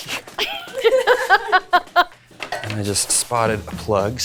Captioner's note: laughing